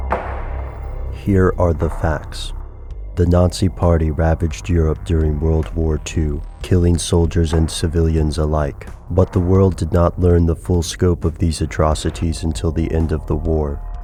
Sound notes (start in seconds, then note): 1.3 voiceover